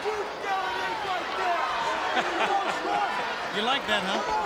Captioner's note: people yelling